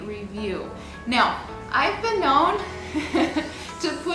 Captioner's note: laughs